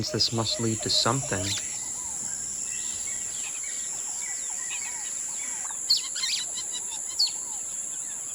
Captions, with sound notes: I guess that means this must lead to something. (insects chirping) (birds chirping)